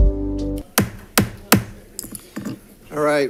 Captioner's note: gavel bangs